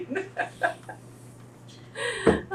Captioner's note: laughs